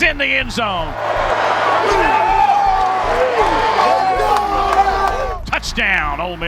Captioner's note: cheering